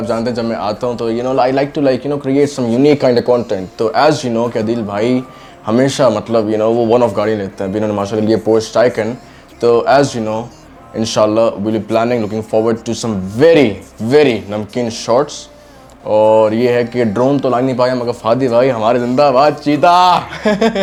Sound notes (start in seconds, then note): 20.2 chuckles; 20.2 laughs